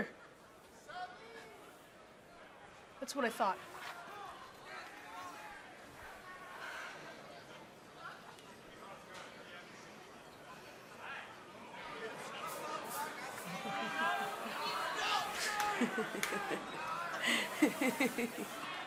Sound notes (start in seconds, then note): 7.0 crowd chatter